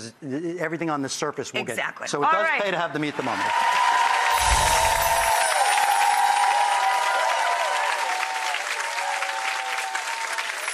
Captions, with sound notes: everything on the surface will get. Exactly, all right. So it does pay to have the meat thermometer. (audience cheering) (wind chimes)